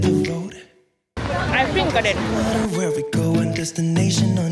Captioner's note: sound of splashing water